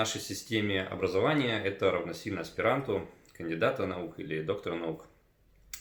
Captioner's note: Russian